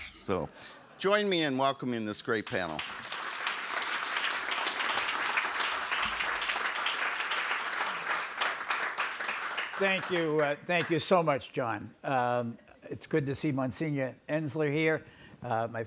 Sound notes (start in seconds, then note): 2.3 audience applauds